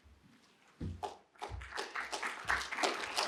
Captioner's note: applause